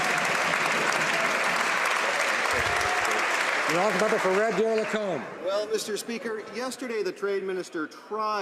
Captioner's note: some Applause